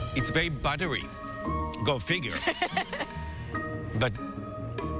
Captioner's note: laughs